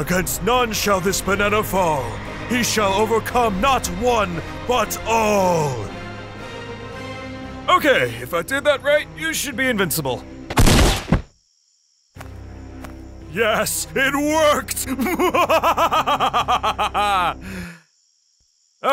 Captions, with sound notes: Against none, shall this fall. He shall overcome not one, but all. (dramatic music) Okay, if I did that right, you should be invincible. (gunshot bangs) Yes, it worked! Mwahahahah.